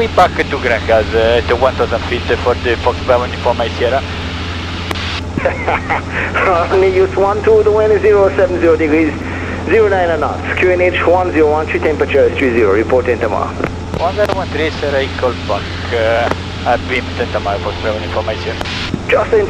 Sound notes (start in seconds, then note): 5.3 laughs